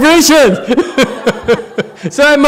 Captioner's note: laughs